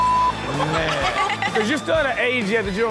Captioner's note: everyone laughs